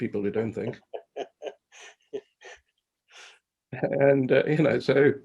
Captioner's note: laughs